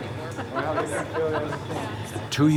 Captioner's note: people chattering